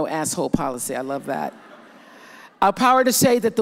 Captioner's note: audience laughs